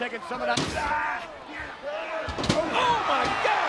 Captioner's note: Mankind thudding